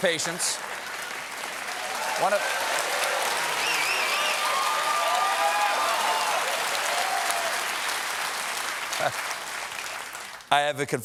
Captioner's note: cheers and applause